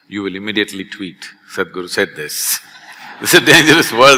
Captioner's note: laughter